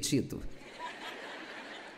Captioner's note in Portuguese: audiência ri